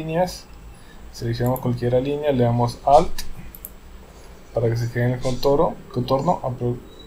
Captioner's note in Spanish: clic